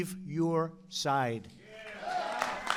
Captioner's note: applause